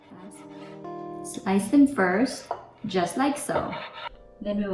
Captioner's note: knife thudding